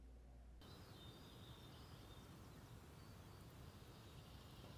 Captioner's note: birds chirping